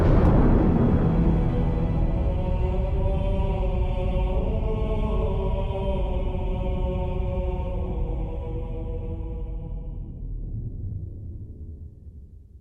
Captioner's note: thunder crashes